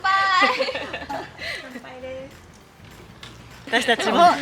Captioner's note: laughs